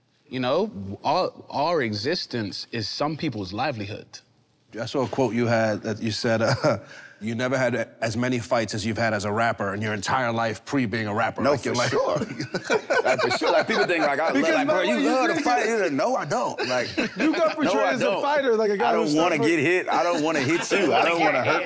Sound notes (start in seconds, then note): 6.4 laughing gently; 12.2 everyone laughing amusingly